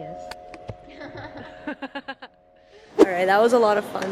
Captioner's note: both laughs loudly